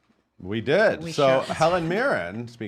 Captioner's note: laughs